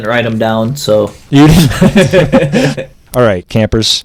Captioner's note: laughs